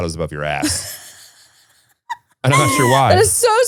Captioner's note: laughing